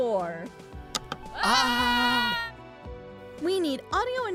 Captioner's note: screaming